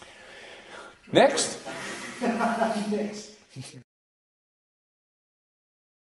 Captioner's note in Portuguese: ri muito e repete o que diz